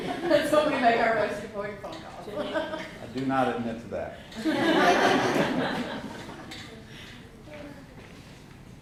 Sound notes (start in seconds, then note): 4.4 laughter